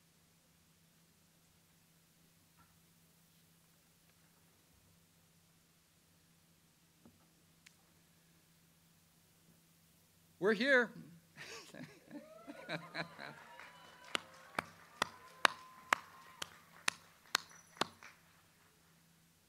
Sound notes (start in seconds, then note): 11.4 laughs; 12.1 audience cheering and clapping